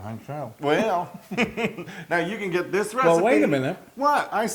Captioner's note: laugh